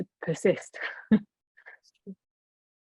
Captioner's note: laughing